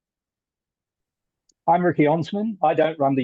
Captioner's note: Australian accent